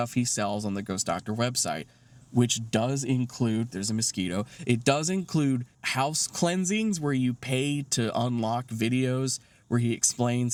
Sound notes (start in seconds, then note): none